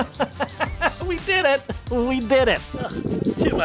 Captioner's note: laughs